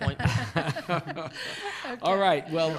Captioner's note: laughs